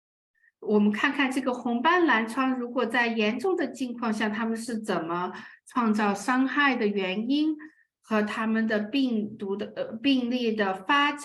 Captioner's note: speaking chinese